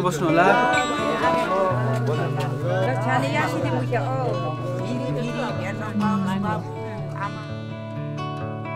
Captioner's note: indistinct chatter